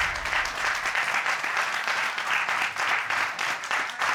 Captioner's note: audience cheering